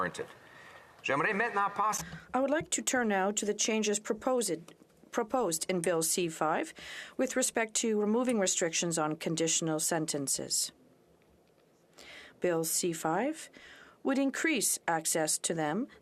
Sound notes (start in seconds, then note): 7.8 speaking French